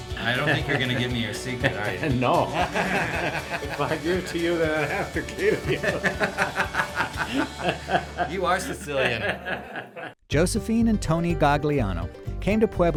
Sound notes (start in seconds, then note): 2.6 laughs; 6.4 laughs